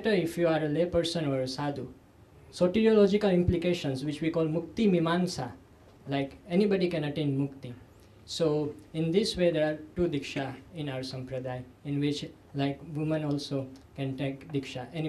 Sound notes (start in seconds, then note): 0.0 sanskrit; 4.7 sanskrit; 10.0 sanskrit; 14.0 sanskrit